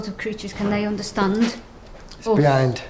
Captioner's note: shuffles